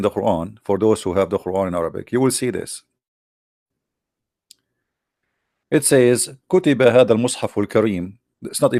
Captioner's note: arebic